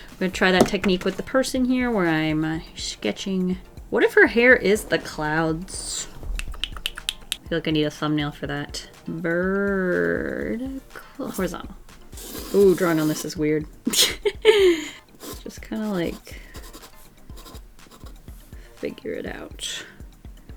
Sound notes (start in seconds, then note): 6.4 clicks tongue thoughtfully; 14.0 laughs